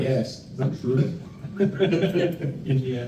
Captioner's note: laughter